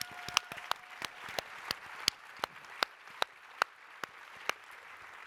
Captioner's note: applause, cheering